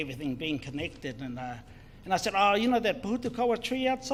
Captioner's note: speaks in foreign language